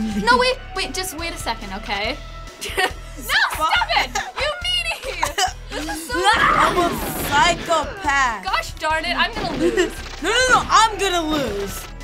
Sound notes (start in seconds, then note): 5.0 chuckles